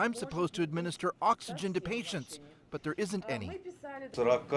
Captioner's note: speaking Foreign Language